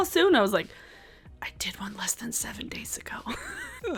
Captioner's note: laughs